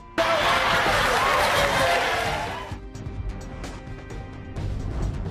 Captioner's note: audience laughing